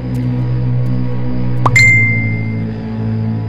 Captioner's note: Notification tone